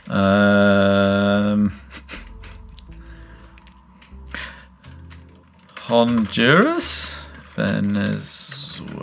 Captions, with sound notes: (groans) (laughs) Honduras, Venezuela.